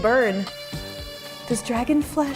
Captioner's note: potatoes sizzle